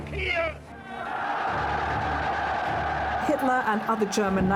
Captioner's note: crowd cheers